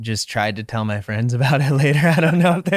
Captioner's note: chuckling loudly